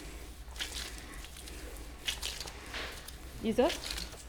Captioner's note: paste squelches